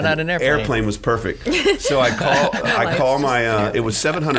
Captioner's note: laughing